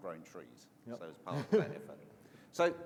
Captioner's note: laughs